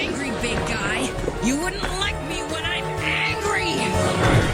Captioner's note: grunting